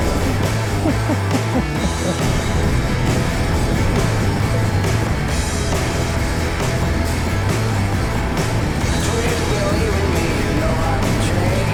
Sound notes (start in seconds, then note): 0.0 laughs